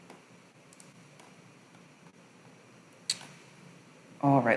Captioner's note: silence